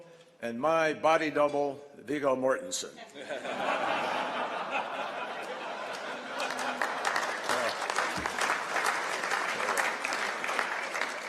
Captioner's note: laughter and applause